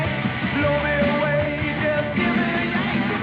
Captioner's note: none